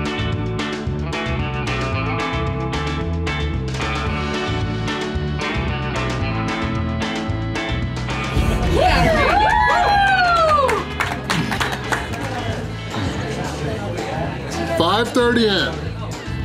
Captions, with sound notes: [Crowd] You've got it Randy!! Whoo!! 5:30 in.